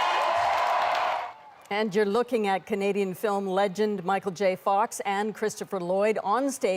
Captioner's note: cheers and Applause